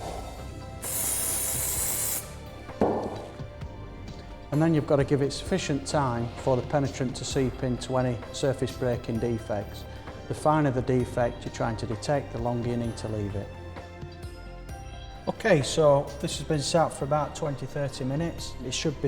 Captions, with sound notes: [spray hisses] And then you've got to give it sufficient time for the penetrant to seep in to any surface breaking defects. The finer the defect you're trying to detect, the longer you need to leave it. OK, so this has been sat for about 20-30 minutes, and it should be